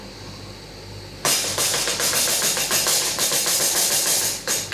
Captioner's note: tapping sounds